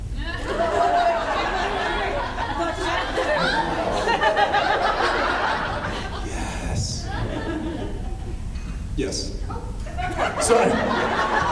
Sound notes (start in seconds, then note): 0.3 laughs; 6.6 whispers; 9.9 laughs